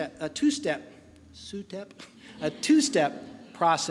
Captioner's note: laughing